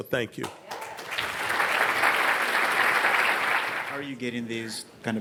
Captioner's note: audience clapping